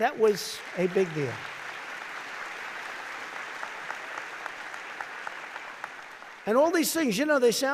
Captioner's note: applause